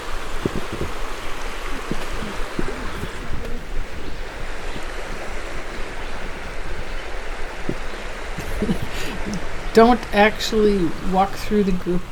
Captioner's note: chuckles